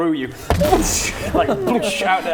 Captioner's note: boosh